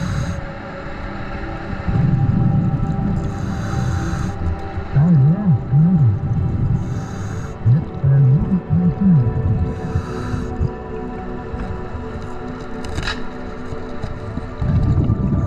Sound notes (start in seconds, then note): 0.1 underwater sounds continue; 5.2 muffled underwater speaking; 13.1 clicking